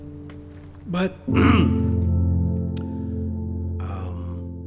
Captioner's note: clearing throat